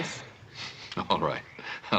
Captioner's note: laughing